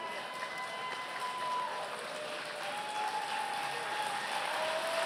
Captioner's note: applause